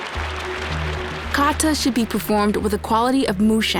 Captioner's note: applause; in English